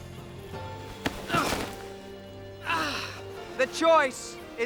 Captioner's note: grunting